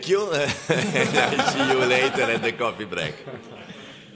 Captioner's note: laughter